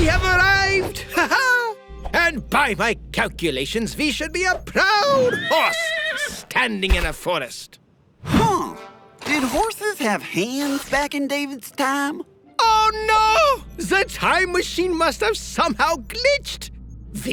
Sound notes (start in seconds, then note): 1.1 laughs